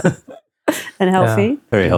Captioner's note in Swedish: skrattande